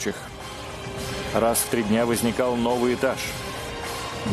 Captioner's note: voiceover